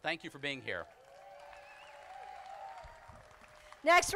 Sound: crowd applauding

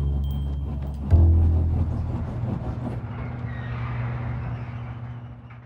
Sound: jazzy Music Plays; garage door squeaks open

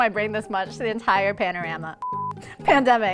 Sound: beep

